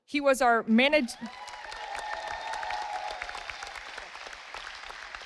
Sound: audience applauding

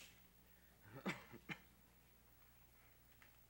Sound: coughing

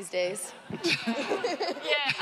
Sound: audience laughs

